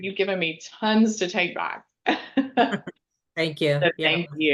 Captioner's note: laughing